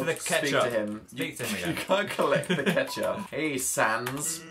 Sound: laughing

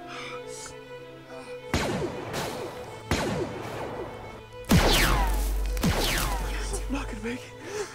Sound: blaster fire

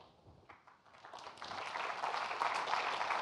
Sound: applause

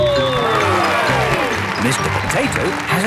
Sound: cheering

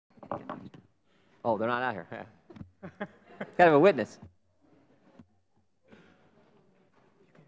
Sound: one Minute of Silence

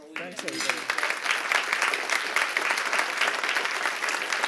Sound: applause

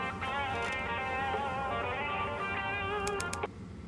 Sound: machine beeps

